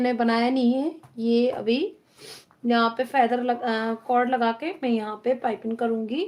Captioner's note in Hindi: नाक से की जाने वाली आवाज़